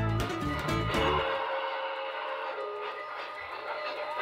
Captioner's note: train whistle